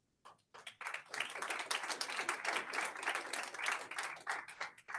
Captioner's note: audience applauds